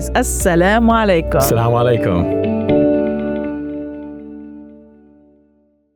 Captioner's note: peaking in foreign language; speaking in foreign language